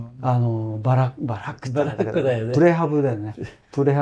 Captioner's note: laughs